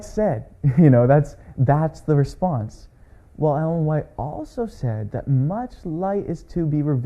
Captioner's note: chuckles